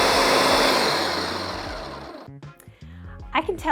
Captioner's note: blender whirs